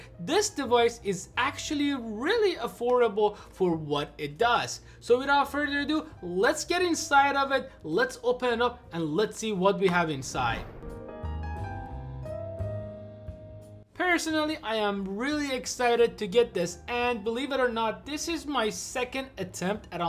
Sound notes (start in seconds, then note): 10.2 air whooshing; 10.8 calming piano music